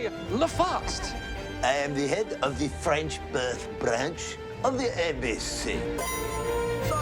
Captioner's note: french accent; ching!